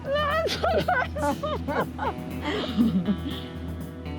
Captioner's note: laughter